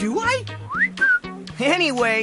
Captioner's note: whistle